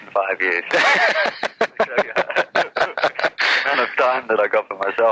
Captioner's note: laughs